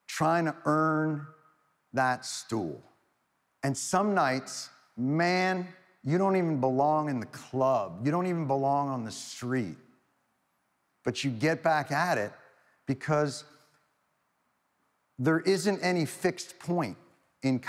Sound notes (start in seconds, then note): none